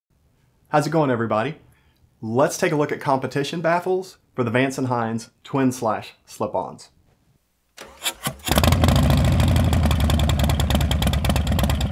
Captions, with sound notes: - How's it going everybody? Let's take a look at Competition Baffles for Vance & Hines Twin Slash Slip-Ons. (engine cranks)